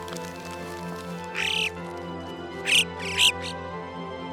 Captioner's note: Gracchio Alpino chirp